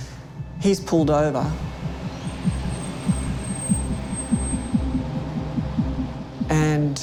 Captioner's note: car slowing down, Music